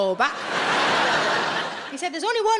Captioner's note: audience laughs